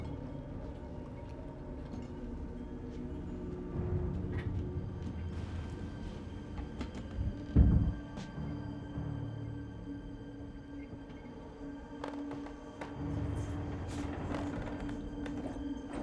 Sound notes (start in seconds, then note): 7.4 thump; 13.6 clattering